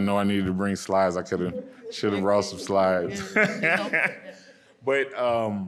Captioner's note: laughing